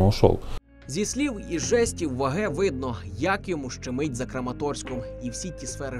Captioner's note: voiceover